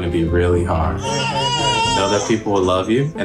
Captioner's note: crying